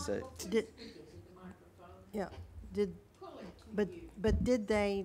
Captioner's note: woman speaks off microphone